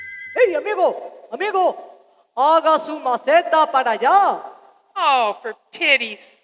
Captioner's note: speaking in Spanish